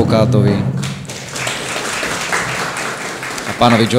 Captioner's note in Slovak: aplauz